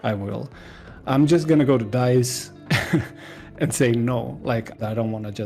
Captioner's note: laughs